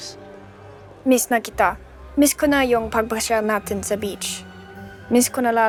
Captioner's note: Enid speaking in Tagalog